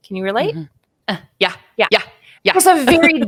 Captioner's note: laughing